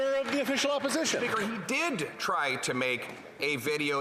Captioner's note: some Applause